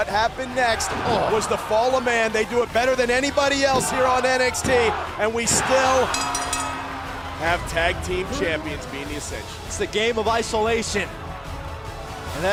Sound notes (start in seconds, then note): 6.1 bell ringing